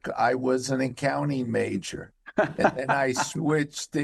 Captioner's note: laughing